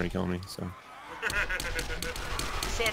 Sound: laughs

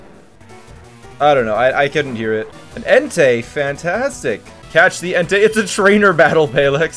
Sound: laughs

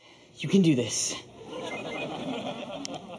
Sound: phone chiming

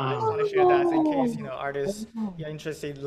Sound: gasps from everyone

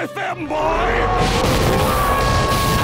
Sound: roaring; screaming

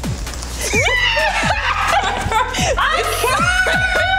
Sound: laughs and Screams

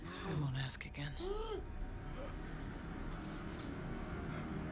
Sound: raspy breathing; light dramatic music

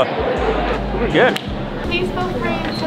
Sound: claps Hands

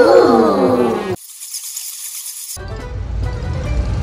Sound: crowd gasps; bats screeching; upbeat music

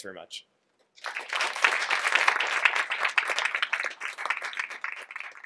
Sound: audience applauding

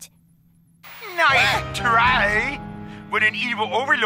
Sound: gasp

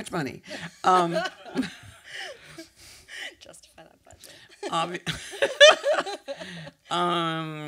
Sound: laughter

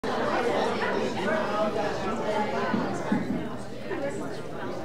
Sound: audience chattering

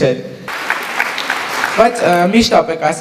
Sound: applause

